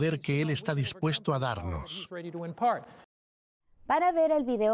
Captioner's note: Hablando idioma extranjero